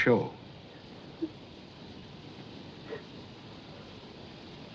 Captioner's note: Lou Sobbing